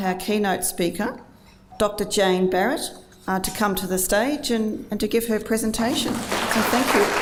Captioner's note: applause